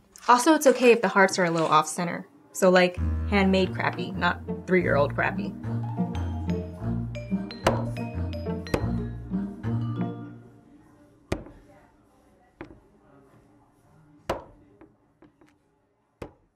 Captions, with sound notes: Also it's okay if the hearts are a little off-center. So like, hand-made-crappy, not three-year-old-crappy. (whimsical music) (stamping noises)